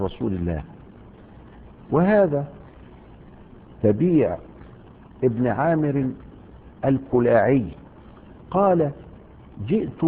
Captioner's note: in a dubiously transmitted narration